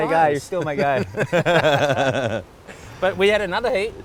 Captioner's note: laughs